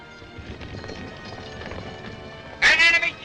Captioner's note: horses galloping